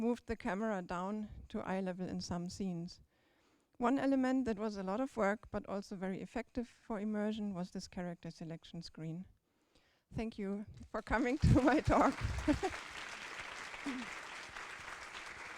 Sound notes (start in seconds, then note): 11.4 chuckles; 13.9 applause